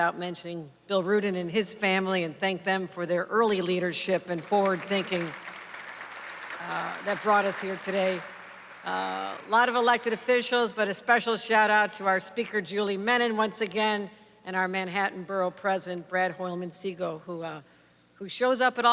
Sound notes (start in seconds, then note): 5.8 applause